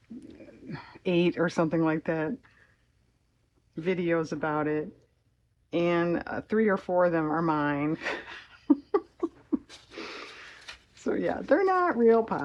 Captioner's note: laughs